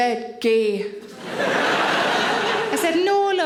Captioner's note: audience laughing